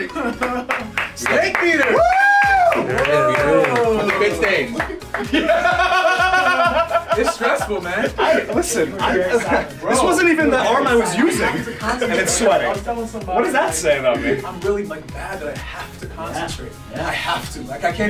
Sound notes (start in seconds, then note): 2.8 laugh